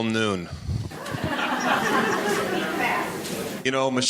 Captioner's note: audience laughing